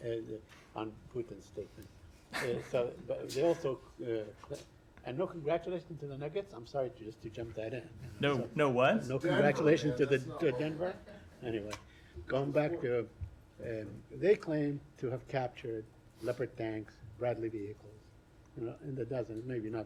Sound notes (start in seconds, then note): 2.3 laughter